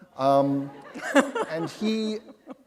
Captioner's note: laughter